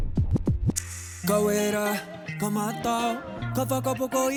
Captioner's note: record scratches